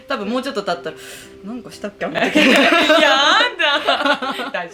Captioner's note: laughs